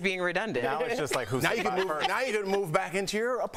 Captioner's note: laughter